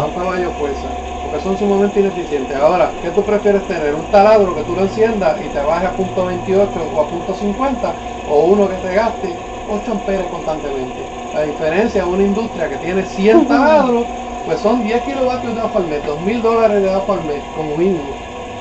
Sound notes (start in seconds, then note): 6.7 amps